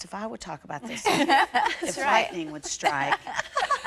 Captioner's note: laughter